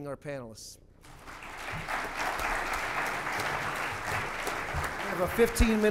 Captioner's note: applause